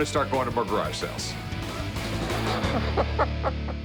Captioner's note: laughs